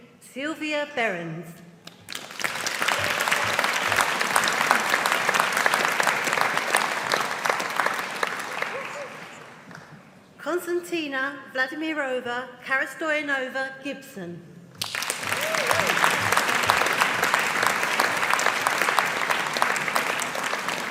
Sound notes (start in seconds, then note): 1.9 audience applauding; 14.8 audience applauding